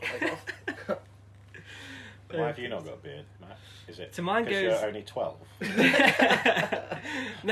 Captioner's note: laughter